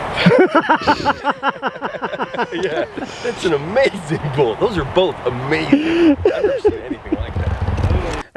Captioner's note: laughing